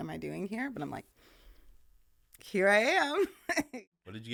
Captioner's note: laughing